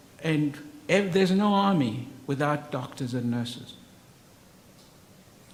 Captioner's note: none